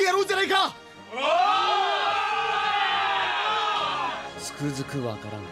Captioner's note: SFX: vigilantes cheering